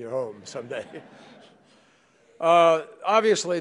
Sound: laughter

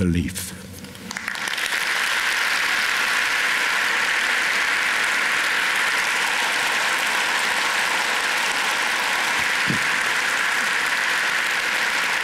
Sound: loud applause

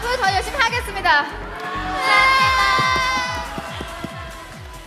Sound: cute cry

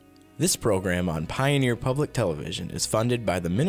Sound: voiceover

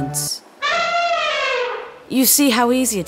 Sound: elephant sound

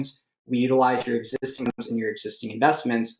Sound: audio distorts

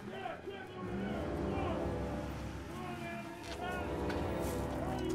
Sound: man chattering; engines buzzing

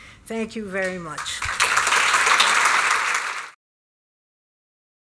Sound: applause

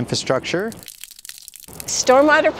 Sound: water dripping

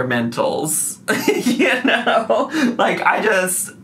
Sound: laughing

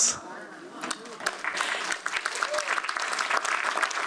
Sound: audience applauds

